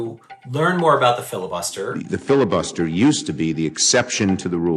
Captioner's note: soundbite of archived recording